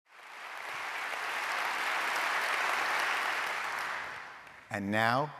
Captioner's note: applauding